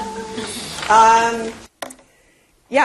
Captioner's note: laugh